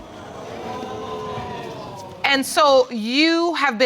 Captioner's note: audience exclaims